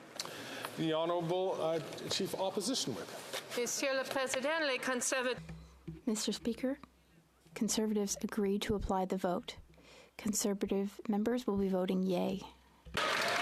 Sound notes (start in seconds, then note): 8.1 speaking French